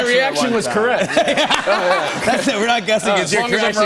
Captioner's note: laughter